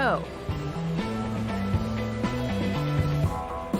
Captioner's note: engine roars; upbeat music